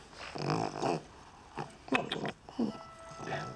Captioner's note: Pug snuffling; Lady Bertram smacking lips